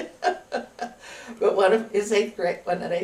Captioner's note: laughs